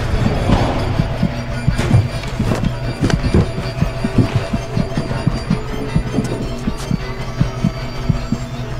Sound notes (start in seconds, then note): 3.6 thumping